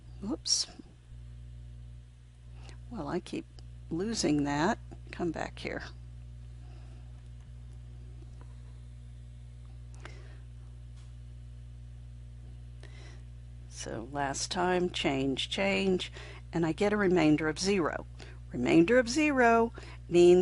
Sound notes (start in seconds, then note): 7.8 silent